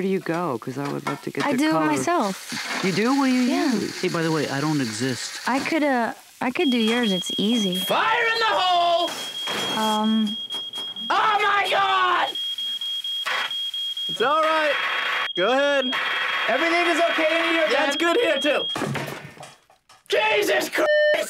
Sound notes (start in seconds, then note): 6.5 beeping